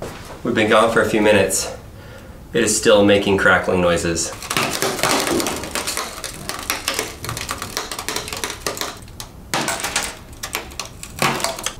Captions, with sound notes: We've been gone for a few minutes, it is still making crackling noises. (computer crackles loudly)